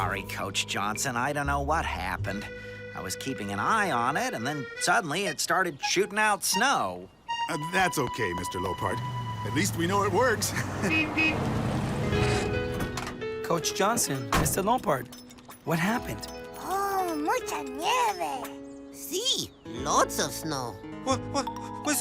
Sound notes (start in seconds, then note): 10.4 chuckles; 10.8 vehicle horn honks